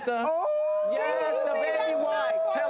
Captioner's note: audience and hosts ooh